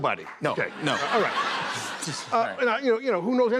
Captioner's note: laughter